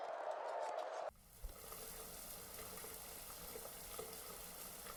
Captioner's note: water sprays